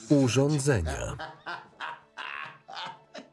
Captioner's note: laughs